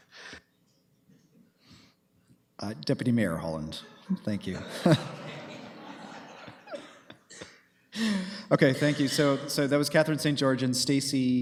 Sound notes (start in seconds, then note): 4.5 laughter